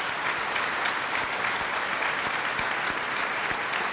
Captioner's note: applause